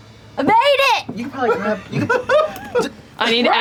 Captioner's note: laughter